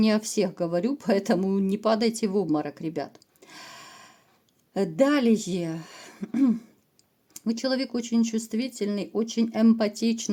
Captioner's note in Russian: откашливается